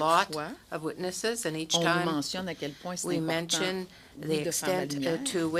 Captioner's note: speaking French